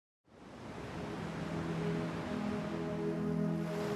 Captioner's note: ocean waves roar